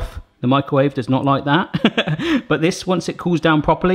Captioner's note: laughs